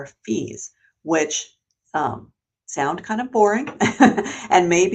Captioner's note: laughs